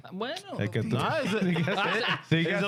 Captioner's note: speaking In Foreign Language